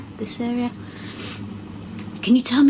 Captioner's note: sniffs